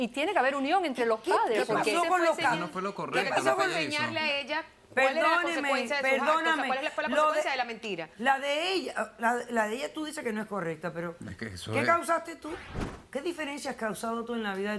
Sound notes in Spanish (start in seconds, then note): 3.0 Hablan al unísono